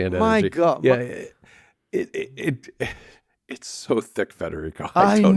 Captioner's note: laughs